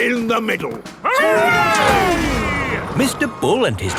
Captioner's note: all cheering